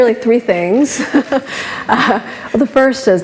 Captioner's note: laughs